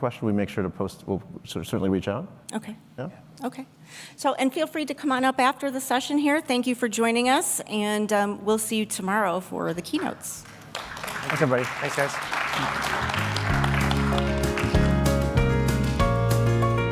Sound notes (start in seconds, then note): 12.9 applause; 14.2 concluding music